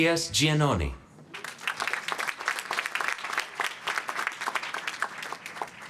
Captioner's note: applause